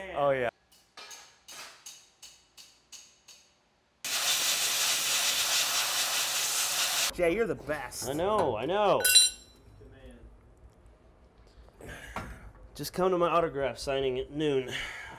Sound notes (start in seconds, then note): 0.9 metal clangs; 4.1 compressed air blowing